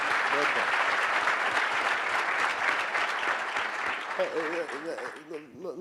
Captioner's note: audience applauding